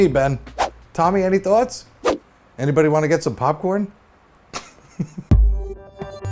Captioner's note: chuckles